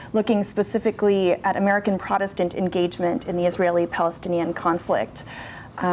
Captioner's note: none